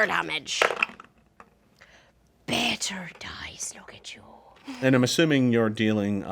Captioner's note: dice roll